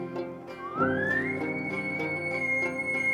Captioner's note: caller bugling